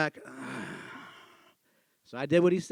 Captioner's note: sighs